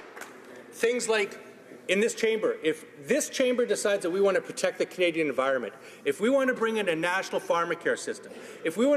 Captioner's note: some Applause